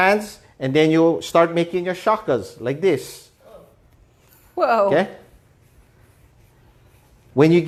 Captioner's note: offscreen: whoa